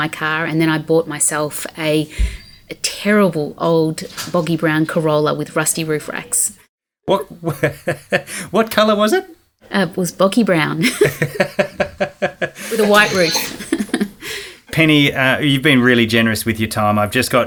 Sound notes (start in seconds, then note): 6.6 laughing; 10.8 both laughing